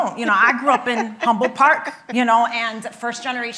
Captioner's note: laughing